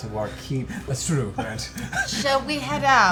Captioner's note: laughs